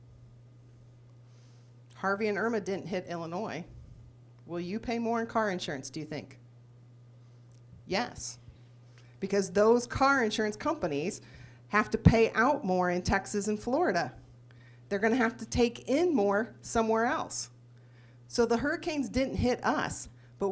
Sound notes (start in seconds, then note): none